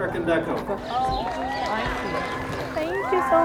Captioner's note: cheers